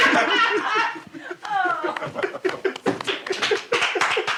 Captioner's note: all laughing; all clapping